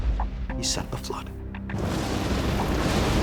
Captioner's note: thunder rumbling